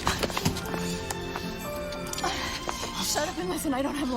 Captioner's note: sirens blaring